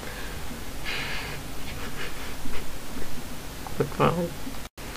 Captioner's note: laughing